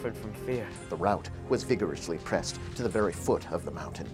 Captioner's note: voiceover